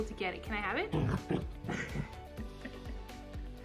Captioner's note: Sophie growls in protest